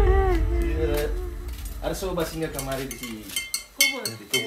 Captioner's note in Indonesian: crying